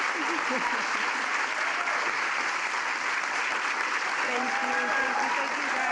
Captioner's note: cheers and applause